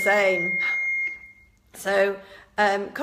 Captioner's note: defibrillator beeps